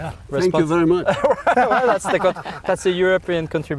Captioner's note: laughter